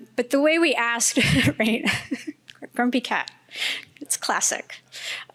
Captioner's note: laughing